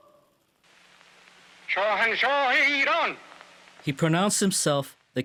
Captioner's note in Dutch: spreekt in een vreemde taal